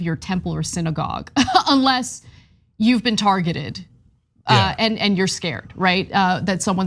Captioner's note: laugh